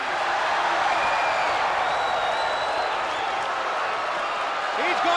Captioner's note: spectators cheering and applauding